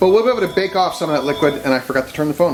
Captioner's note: phone rings